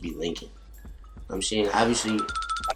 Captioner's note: fingers twinkle